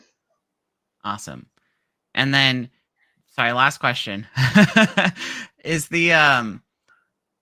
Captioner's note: laughing